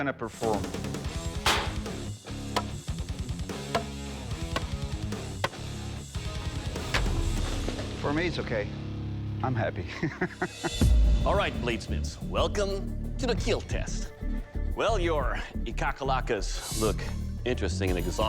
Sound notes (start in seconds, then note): 0.4 heavy metal music; 9.9 laughs